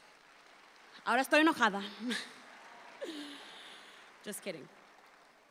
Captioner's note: audience applauds; speaks in Spanish